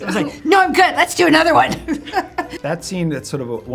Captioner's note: laughing